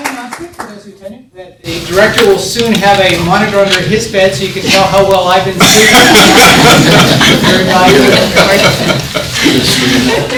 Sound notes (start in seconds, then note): 5.6 all laughing